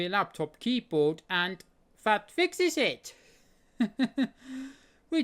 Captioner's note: chuckles